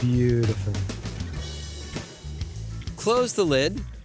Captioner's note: sizzling